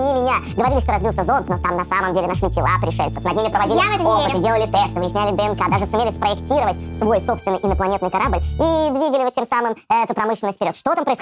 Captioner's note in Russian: ускоренная речь про зону 51